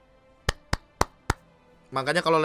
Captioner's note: claps